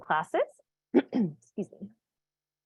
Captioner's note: clears throat